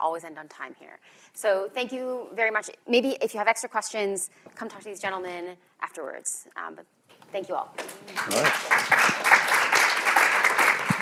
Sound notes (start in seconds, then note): 7.8 applause